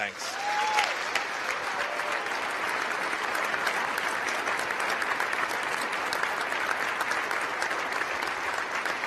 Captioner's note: applause